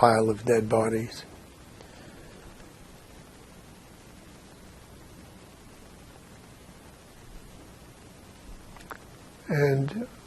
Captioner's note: pauses 8 seconds